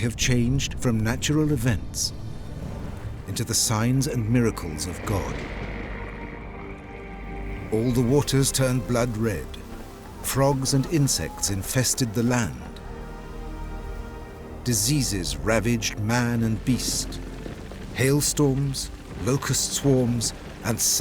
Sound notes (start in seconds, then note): 4.4 croaking